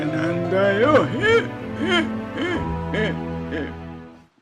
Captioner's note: laughing